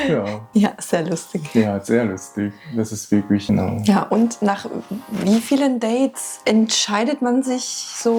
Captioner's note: laughs